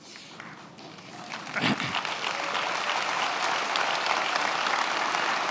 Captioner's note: attendees applauding